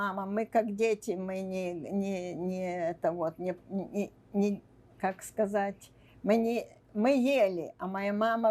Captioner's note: mumbling